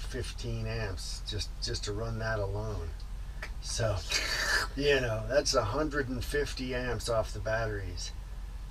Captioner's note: slurping sound